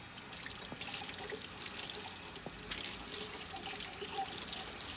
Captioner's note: water facet running